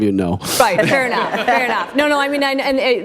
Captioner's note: laughter